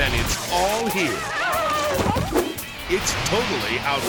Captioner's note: bride screams